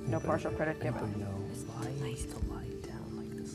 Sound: whispering

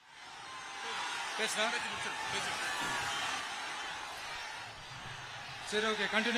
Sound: applause

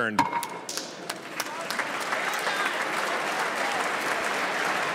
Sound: chorus of ayes

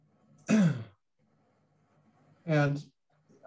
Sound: clears throat

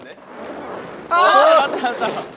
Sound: peep

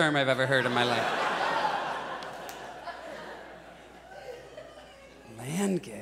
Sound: audience laughs

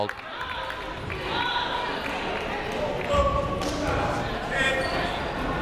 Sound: people shouting in the crowd

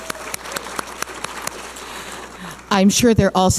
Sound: audience applauding

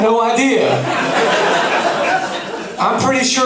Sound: laughing

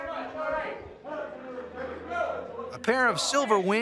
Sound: shouting

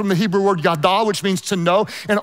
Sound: speaks in foreign language

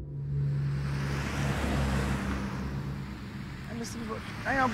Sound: vehicle passing

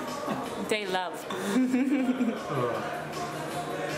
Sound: laughing

